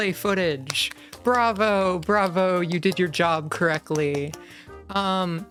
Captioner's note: clapping